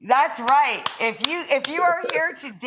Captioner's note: applauding